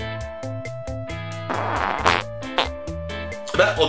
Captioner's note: fart